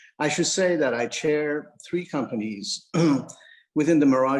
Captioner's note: clears throat